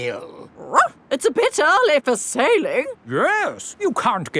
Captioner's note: barks